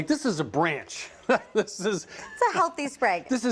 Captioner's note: chuckling